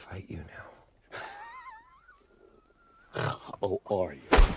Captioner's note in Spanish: Wolverine se ríe